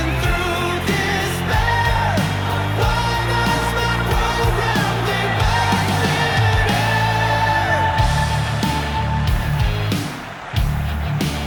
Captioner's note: applause